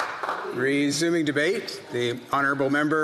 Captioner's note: some Applause